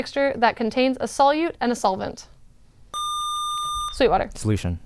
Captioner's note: buzzer